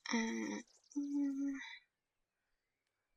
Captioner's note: hums thoughtfully